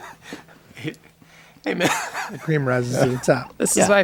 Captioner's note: laughs